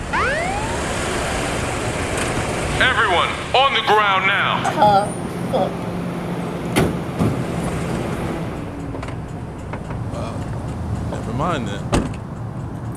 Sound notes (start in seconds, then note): 0.1 sirens wailing; 5.0 groans; 6.7 doors thudding